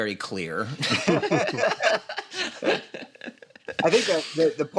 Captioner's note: laughter